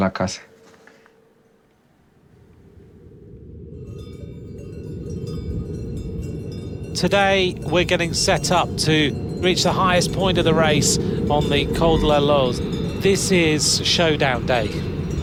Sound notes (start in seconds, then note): 3.6 wind blowing; 3.6 wind chime ringing